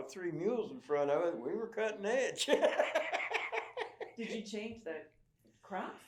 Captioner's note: laughs